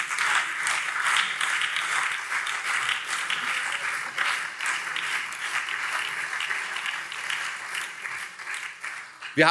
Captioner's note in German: Beifall CDU, SPD, BÜNDNIS 90/DIE GRÜNEN und Freie Demokraten